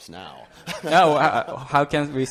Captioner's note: laughter